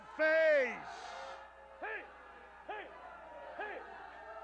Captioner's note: audience jeering